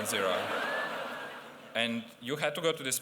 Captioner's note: laughter